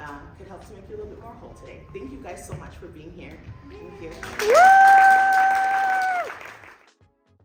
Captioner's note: applause